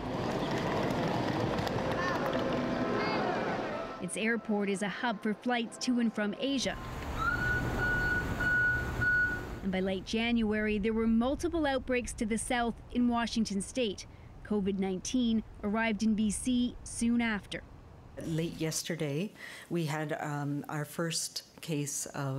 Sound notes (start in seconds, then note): 10.5 beeping